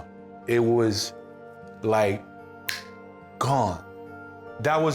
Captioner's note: finger-snap